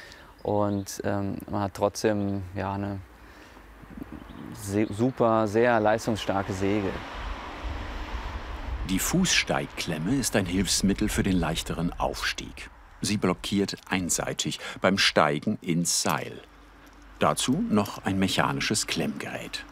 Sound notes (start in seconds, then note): 7.0 traffic noise